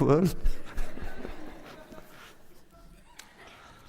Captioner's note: laughter